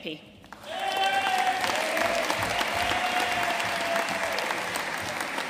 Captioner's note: audience cheering and applauding